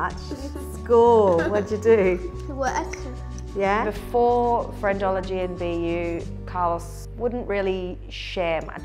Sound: voiceover

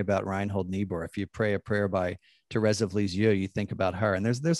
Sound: speaking in foreign language

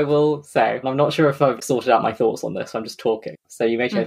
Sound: laughs

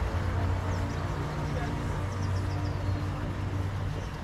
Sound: water running

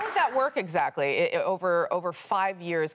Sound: applause

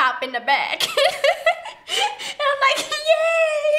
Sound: laughs

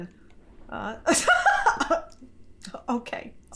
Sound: laughing

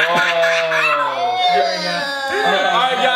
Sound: screams and laughs

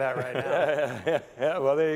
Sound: all laughing

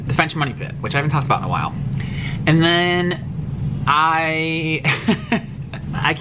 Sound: awkward laugh

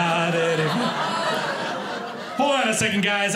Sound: audience laughing

